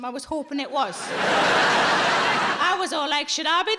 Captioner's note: audience laughs